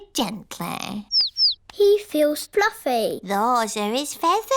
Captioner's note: chirping